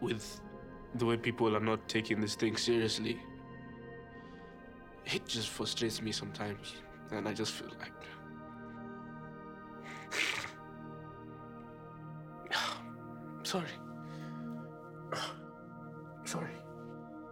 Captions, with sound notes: with the way people are not taking this thing seriously... it just frustrates me sometimes, and I just feel like... (sniffling) (sighing) Sorry. Ah. Sorry.